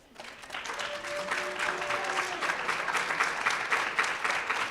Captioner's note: audience applauds